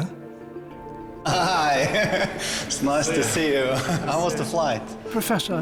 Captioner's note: laughs